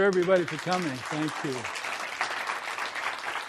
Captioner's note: applause